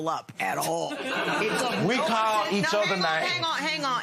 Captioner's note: laughter